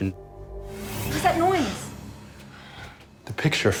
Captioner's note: he gasps